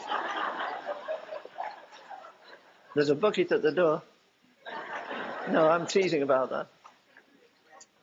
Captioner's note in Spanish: risas